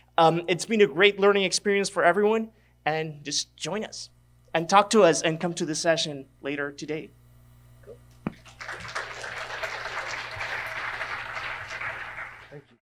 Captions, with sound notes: Its been a great learning experience for everyone, and just join us. And talk to us and come to the session later today. (audience claps)